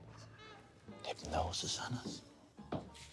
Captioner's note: none